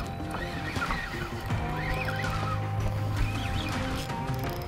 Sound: fishing rod whirring

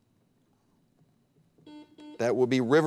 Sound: buzzer beeps

